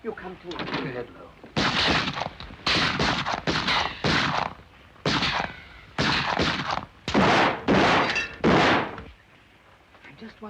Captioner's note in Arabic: اطلاق نار